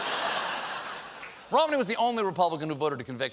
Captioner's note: laughter